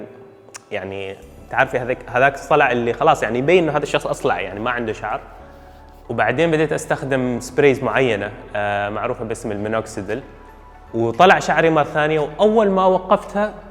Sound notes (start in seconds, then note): 7.9 sprays